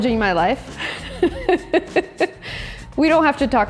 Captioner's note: laughs